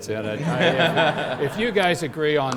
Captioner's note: laughter